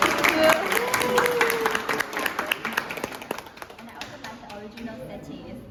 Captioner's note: cheers and applause